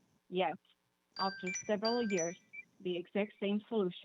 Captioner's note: chime